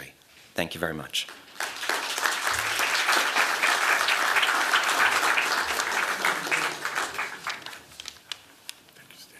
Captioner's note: applause